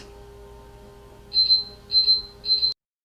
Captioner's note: beeping